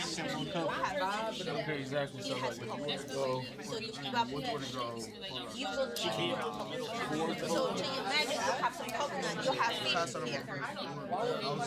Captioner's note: students murmur